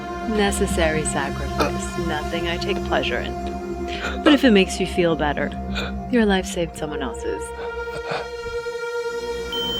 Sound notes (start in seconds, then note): 7.3 Morales gasping